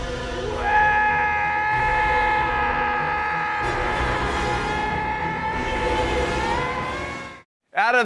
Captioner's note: screaming